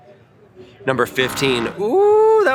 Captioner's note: buzzer sounds